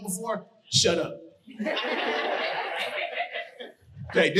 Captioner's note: audience laughing